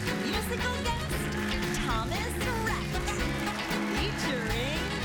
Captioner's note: cheers and applause